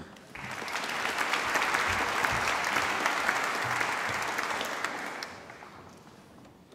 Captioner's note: applause